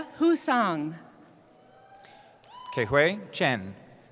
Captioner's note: cheering